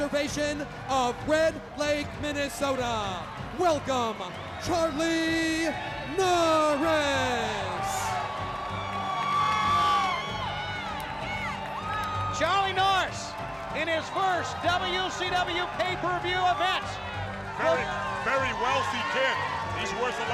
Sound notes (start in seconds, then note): 10.7 crowd cheering